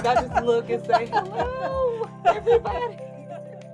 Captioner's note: laughter